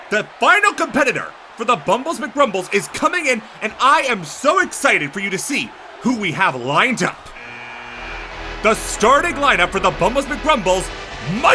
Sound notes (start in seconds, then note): 7.3 buzzer buzzes